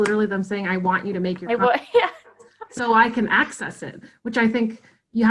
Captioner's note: laughing